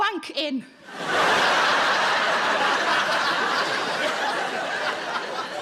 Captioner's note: audience laughing